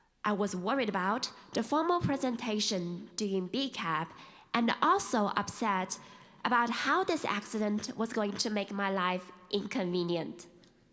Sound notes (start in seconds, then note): none